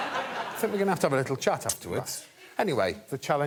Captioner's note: laughter